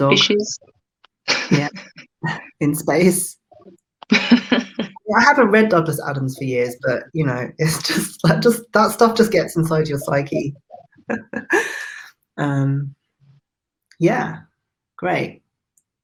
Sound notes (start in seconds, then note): 4.0 laughs